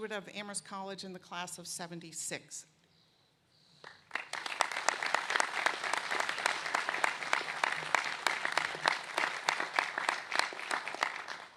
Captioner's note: applause